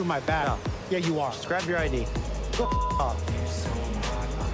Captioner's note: beep